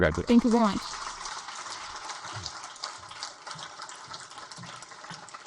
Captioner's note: audience applaud